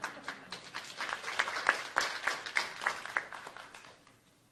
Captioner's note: applause